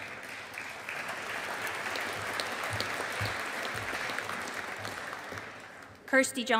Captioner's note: audience applauding